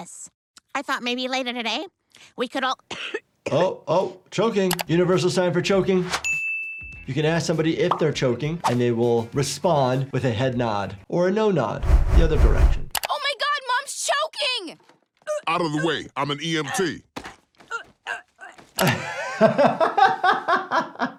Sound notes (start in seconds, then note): 2.9 Lois coughs; 17.0 Lois groans; 18.7 doctor laughs